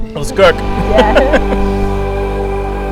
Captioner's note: laughs